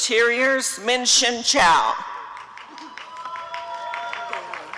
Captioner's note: applause and cheering